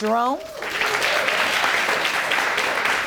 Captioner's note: audience applauding